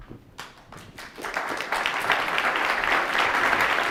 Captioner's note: audience applause